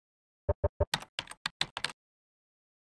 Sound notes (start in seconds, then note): 0.6 typing sounds